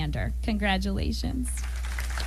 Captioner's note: applause